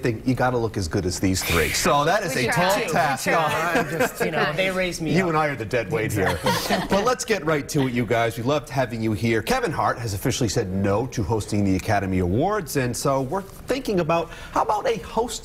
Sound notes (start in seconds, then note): 6.1 laughter